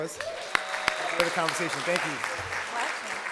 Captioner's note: audience clapping